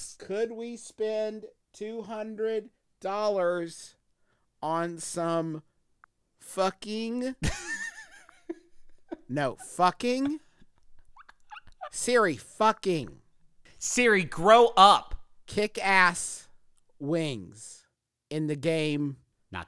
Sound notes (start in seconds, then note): 7.5 laughs